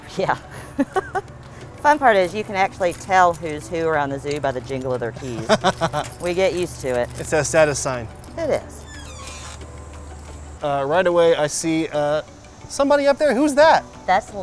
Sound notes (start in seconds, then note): 0.6 laughing; 5.2 laughs